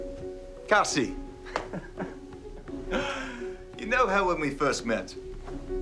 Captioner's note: laughs